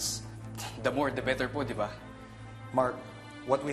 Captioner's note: scoffs